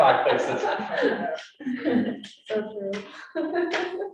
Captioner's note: all laughing